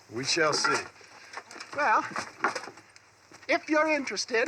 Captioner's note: sighs